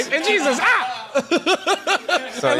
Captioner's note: laughter